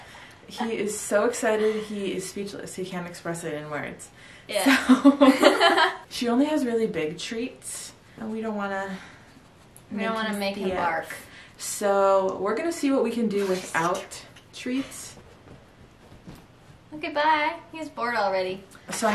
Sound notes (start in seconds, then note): 5.4 laughs; 14.3 whispers